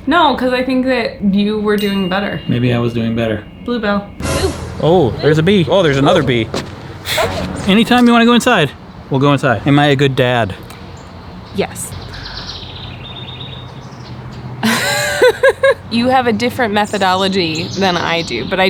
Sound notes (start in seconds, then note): 4.1 dramatic clash; 14.6 laughs